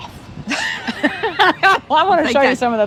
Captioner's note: both laugh